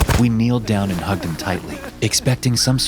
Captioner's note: sobbing